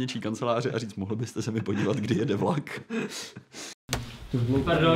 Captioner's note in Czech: smích